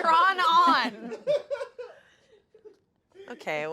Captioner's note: everyone laughs